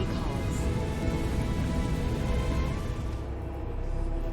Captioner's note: torrent of mystical winds; ominous music